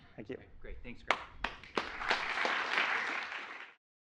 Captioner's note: applause